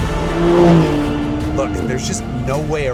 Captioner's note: engine revs